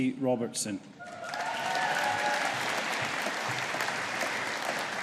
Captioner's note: audience applauding